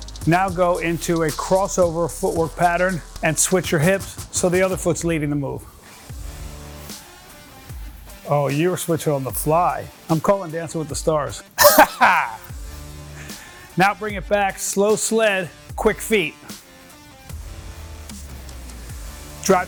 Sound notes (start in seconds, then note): 11.6 laughs; 16.7 quiet upbeat music